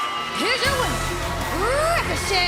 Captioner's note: crowd cheering